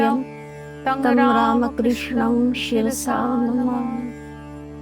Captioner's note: chanting